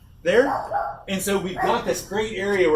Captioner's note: dog barks